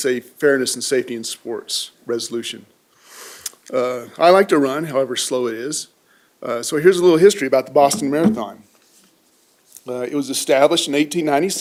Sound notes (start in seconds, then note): none